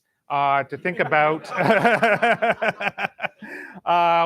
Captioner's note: laughter